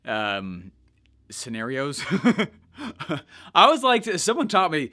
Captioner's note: laughs